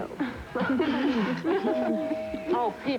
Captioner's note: doorbell rings